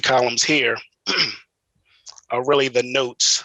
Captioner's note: clears throat